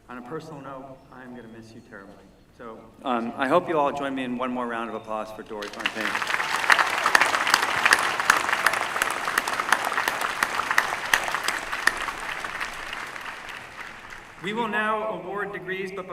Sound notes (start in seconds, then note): 5.9 applause